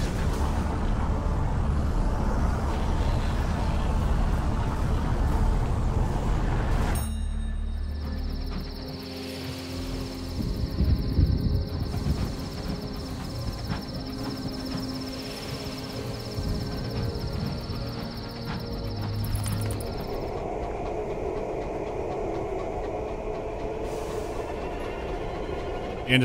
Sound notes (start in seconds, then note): 0.1 howling of the wind; 7.8 sounds of night insects and quiet rumbling of thunder; 20.0 dull atmospheric hum